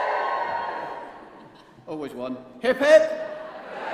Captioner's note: cheers